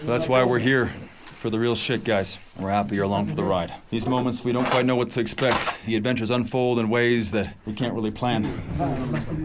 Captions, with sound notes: That's why we're here, for the real shit, guys. We're happy you're along for the ride. These moments, we don't quite know what to expect. (drill whirring) The adventures unfold in ways that we can't really plan.